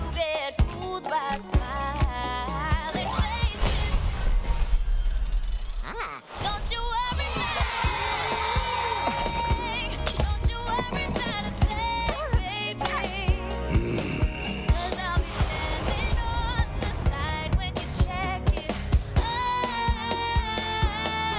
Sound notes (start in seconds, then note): 3.8 door squeaks; 3.8 safe crashing